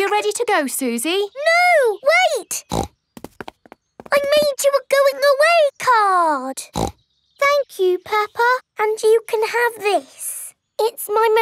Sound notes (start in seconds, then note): 2.6 snorts; 6.6 snorts